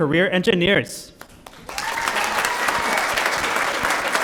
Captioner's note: applause